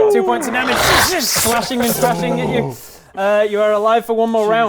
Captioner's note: krssch krssh